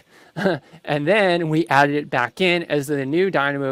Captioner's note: laughs